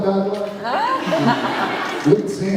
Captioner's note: laughs